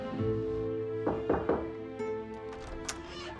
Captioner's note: knocking on door